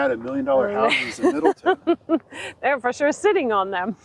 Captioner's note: laughing